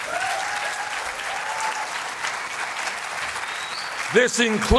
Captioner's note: applause